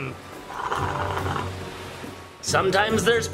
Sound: dad slurping

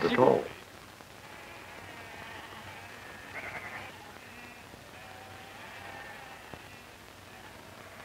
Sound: sheep bleating

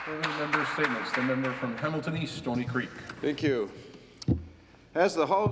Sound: some Applause

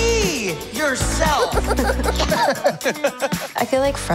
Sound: laughter

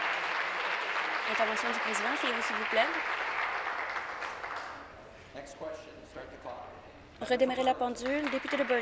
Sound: some Applause

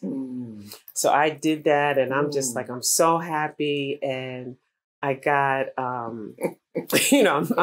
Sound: laughter

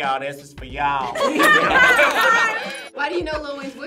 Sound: group laughs

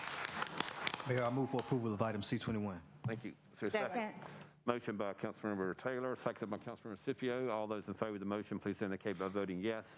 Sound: applause

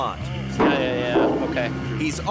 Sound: loud thuds

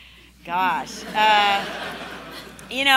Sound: laughing

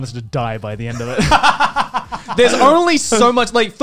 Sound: laughing

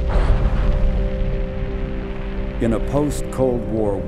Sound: rocket launching

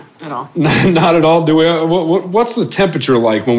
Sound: laughs

